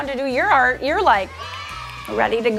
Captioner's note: children cheering